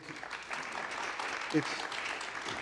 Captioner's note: applause